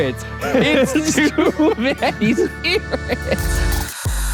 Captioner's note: laughs; spooky upbeat music